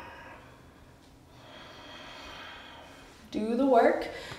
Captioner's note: heavy breathing